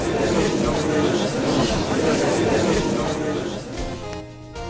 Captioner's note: gallery chattering